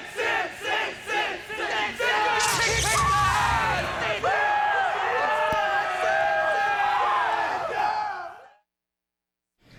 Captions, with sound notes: Sid! Sid! Sid! Sid! (crowd cheering) (electricity crackling) Whoo! (crowd cheering) Yeah, Sid! Sid! Sid! (crowd cheering)